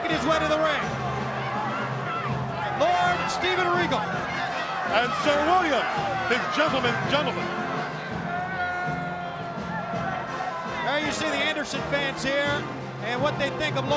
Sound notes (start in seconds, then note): 6.8 crowd cheering